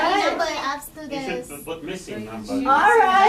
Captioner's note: voiceover